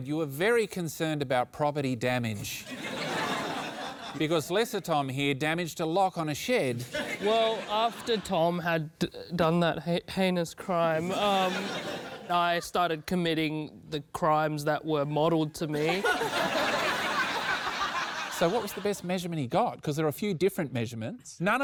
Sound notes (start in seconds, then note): 15.7 laughter